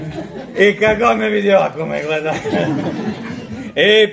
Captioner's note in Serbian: смех